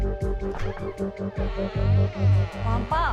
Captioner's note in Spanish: Crujido de la puerta